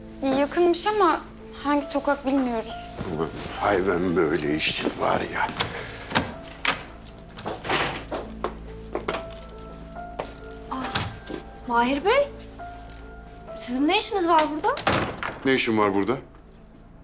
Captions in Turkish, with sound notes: Yakınmış ama hangi sokak bilmiyoruz. Hay ben böyle işi var ya! (Kapı açılıyor) Mahir Bey... ...sizin ne işiniz var burada? -Ne işim var burada?